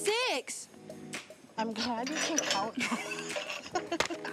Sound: laughs

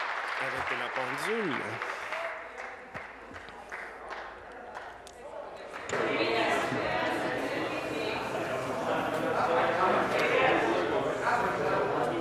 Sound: applause

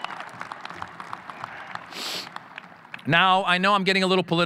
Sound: audience cheering

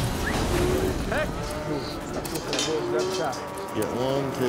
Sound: gate clanking; cows mooing

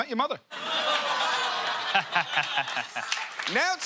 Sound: laughter

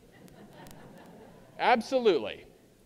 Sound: audience laughing

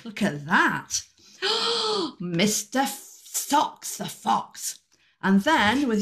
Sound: gasp

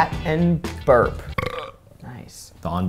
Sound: burps

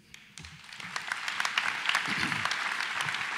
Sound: applause

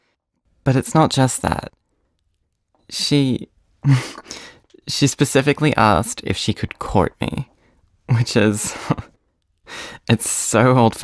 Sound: giggle; laughs

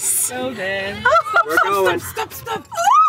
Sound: giggling

